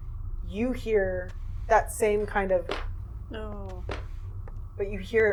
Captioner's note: step and drag sound